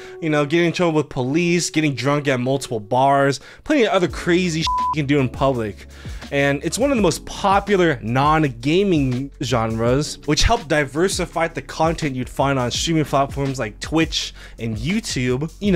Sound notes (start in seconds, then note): 4.6 beep